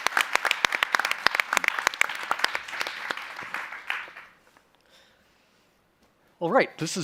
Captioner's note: applause